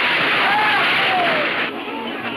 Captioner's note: horses galloping; men shouting